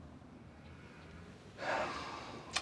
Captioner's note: Jason sighs